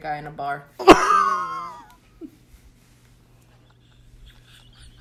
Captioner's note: laughs